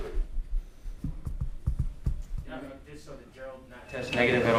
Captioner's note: microphone feedback tapping